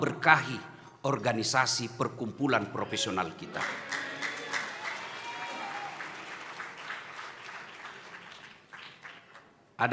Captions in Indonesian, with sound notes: berkahi organisasi perkumpulan profesional kita. [tepuk tangan]